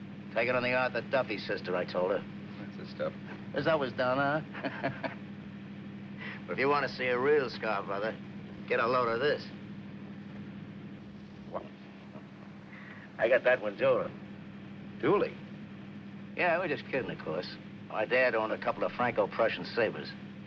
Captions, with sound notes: "Take it on the Arthur Duffy, sister," I told her. - That's the stuff. - As I was down on her. [laughs] But if you wanna see a real scar, brother, get a load of this. Wow. - I got that one dueling. - Dueling? Yeah. We were just kidding, of course. My dad owned a couple of Franco-Prussian sabers.